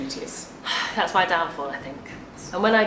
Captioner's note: sighing